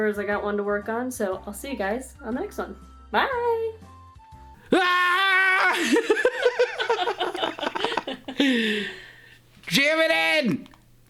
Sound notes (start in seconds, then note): 5.6 laughter